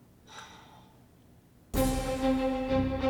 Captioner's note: sigh